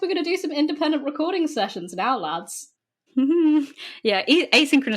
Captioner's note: laughs